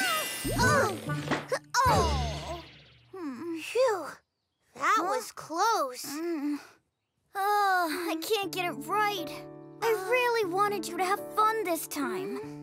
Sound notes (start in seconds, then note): 0.1 Hogi sighs; 3.1 Hogi groans; 6.1 sighs